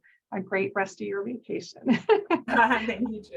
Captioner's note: laughing